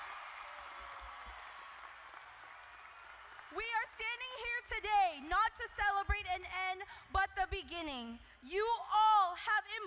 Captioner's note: cheers and applause